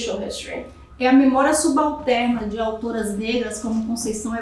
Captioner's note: speaking portuguese